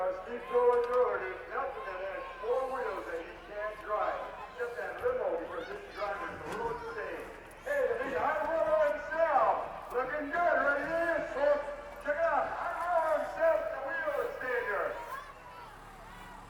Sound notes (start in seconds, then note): 6.6 speaks faintly; 11.0 speaks faintly; 14.0 speaks faintly